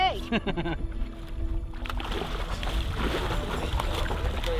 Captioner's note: laughing